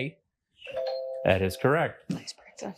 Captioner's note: bell dings